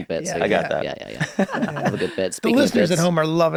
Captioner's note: chuckles